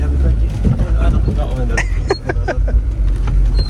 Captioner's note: laughs